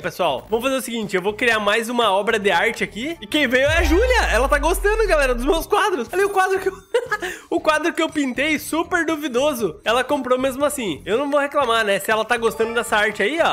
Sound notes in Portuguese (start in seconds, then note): 6.8 risos